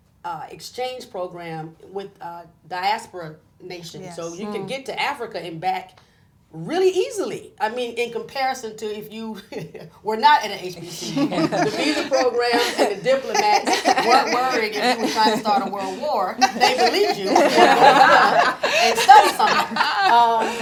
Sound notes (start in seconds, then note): 9.5 laughs; 17.3 group laughing